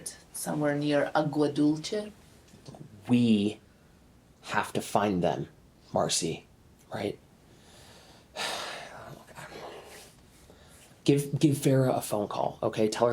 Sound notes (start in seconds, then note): 8.3 Randall sighs